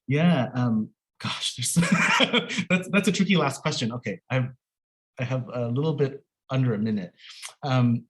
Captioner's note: laughs